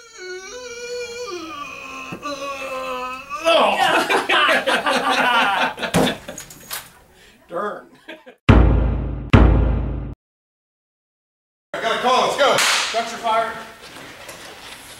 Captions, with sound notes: Urrgh (struggling) [laughter] Darn. [thump] [thump] -I got a call. Let's go! -Structure fire.